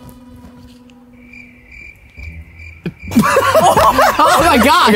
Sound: crickets chirp; Taz laughs

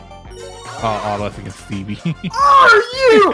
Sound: chuckles

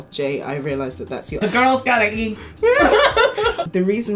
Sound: laugh

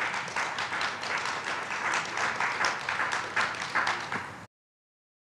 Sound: audience applauds

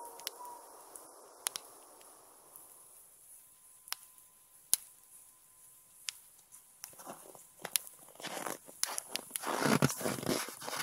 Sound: howl

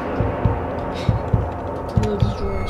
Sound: holds breath

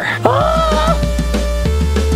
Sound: whimsical music; screams

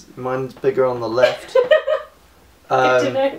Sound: laughter

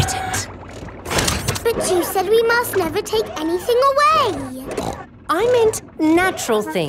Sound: snorts

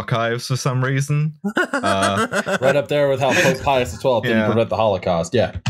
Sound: laughter

